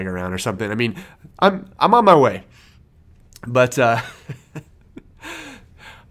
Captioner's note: laughs